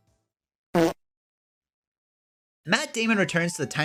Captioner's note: fart